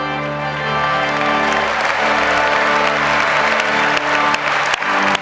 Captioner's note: audience applauds